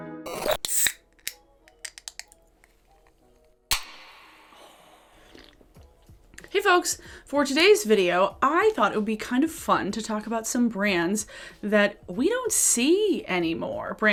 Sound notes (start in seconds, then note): 5.2 soda cap pops